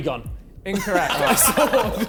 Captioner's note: men laughing